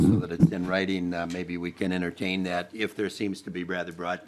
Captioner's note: laughing